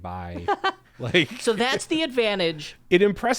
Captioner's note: laughing